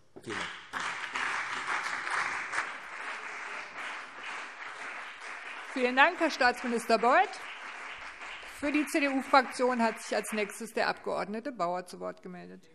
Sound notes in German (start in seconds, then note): 2.2 Beifall CDU und BÜNDNIS 90/DIE GRÜNEN